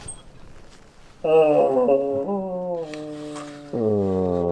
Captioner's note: grunting